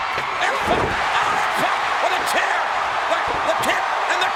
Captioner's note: crowd cheers